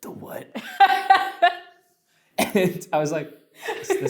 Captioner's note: laughs